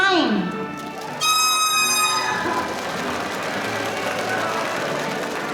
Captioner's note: audience applauding